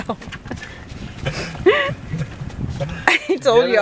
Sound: laughs

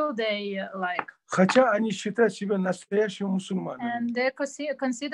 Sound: in Russian

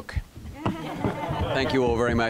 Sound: laughter

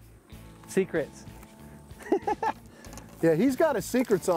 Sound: chuckles

